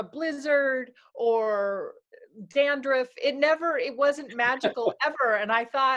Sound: laughter

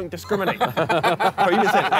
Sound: laughing

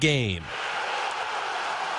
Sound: crowd

